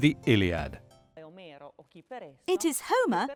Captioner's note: speaking in foreign language